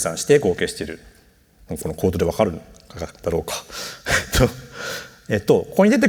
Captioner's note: chuckles